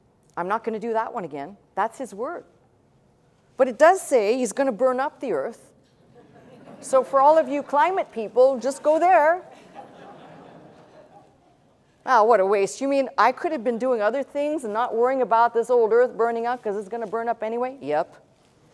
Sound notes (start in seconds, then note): 9.5 laughter